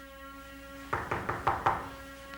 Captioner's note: knocking on door